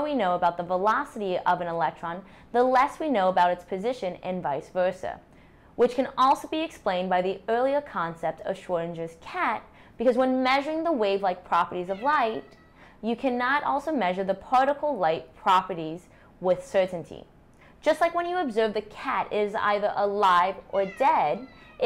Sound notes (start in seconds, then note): 11.9 meowing